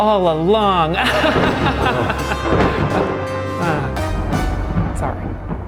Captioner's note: laughs